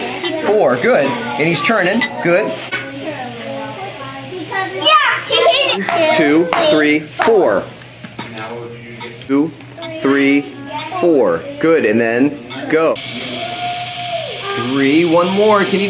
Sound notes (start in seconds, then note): 13.0 motor whirring